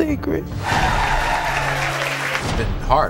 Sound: cheering; audience applauding

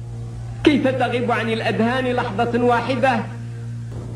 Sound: Bouteflika mourning Boumediene in classical Arabic

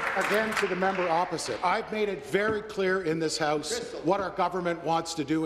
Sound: applause

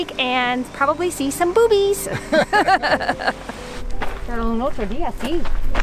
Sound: laughs

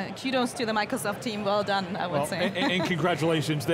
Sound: laughs

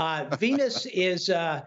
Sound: laughter

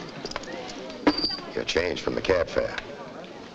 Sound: coins clank

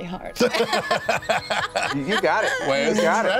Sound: laughs

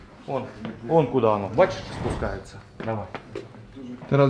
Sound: elevator

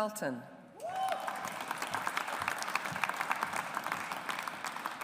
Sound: audience applauds

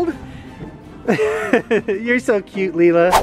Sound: laughs

